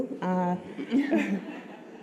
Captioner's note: laughter